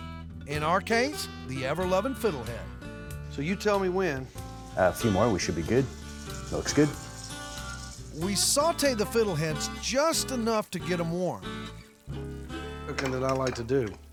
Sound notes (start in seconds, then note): 6.9 sizzling sound